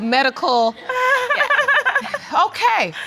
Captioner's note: laughing